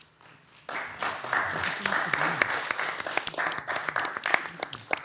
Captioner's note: attendees applauding